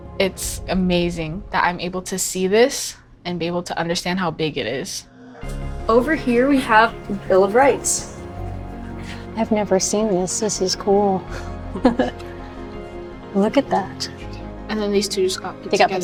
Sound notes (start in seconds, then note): 11.7 laughs